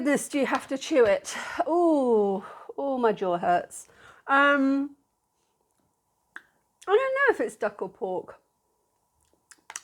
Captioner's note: sigh